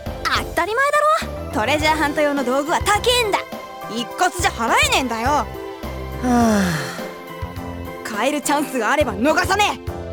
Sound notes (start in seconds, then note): 6.2 sigh